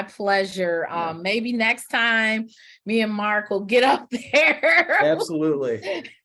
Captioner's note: chuckles